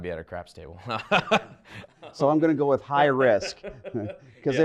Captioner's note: laugh